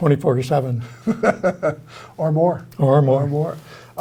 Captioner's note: laughs